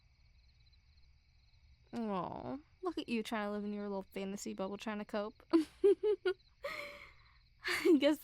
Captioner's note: soft laugh